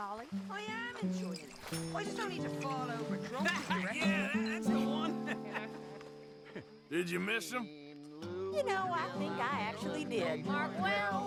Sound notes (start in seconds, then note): 4.8 laughs